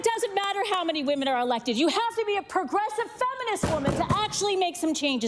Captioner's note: applause